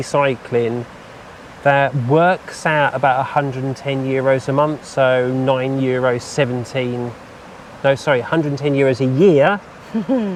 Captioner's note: laughter